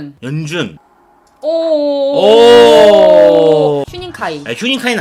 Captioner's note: surprised